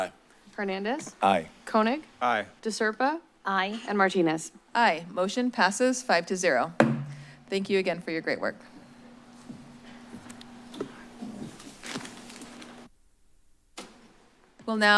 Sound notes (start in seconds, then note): 6.8 bangs; 8.7 shuffling noises